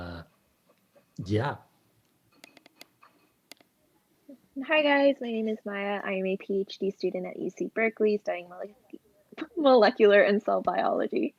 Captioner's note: laughs